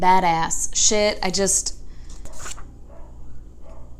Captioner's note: dog barking in neighbor's apartment